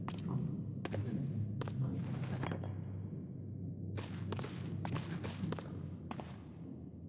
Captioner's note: footsteps